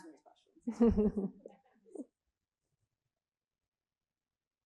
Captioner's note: both chuckling